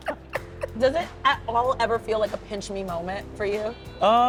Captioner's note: laughs